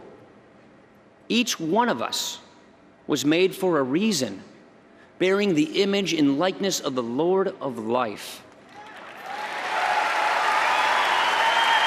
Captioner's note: applause